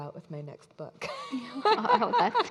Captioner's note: all laughing